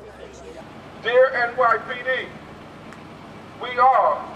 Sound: male Through Megaphone

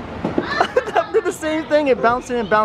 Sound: laughing

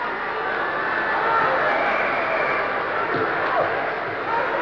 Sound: yelling

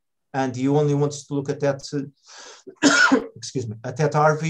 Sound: coughs

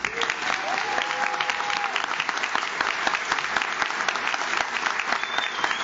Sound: audience cheers; audience claps

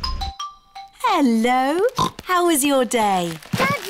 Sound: oinks

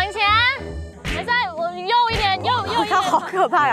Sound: whipping from the angry man

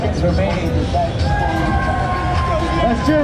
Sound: cheering

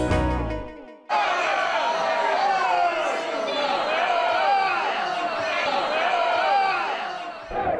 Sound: angry shouting

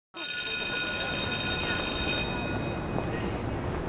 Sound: school bell rings

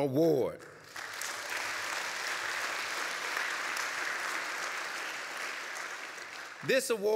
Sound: applause

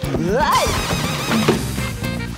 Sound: yelps

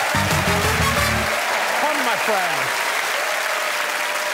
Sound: cheers and applause

